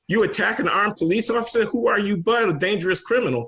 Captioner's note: none